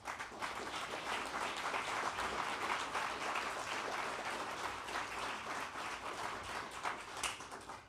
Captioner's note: applause